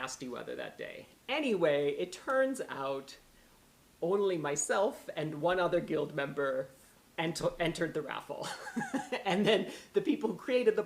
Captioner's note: laughter